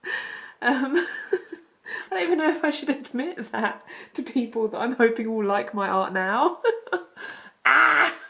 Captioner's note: laughing